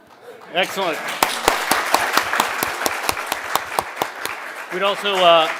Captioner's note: everybody applauding